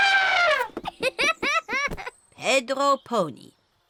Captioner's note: trumpets; giggles